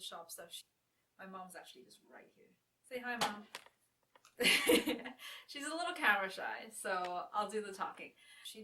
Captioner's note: laughing